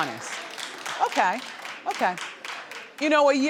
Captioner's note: light clapping